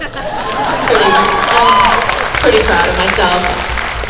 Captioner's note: crowd applause